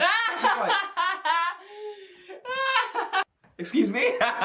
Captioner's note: laughing